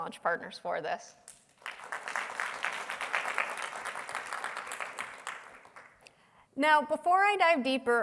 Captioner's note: applause